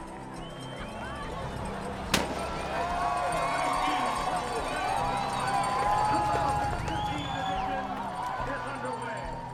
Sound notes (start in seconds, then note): 2.1 shot; 3.6 cheering